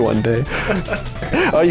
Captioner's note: laughing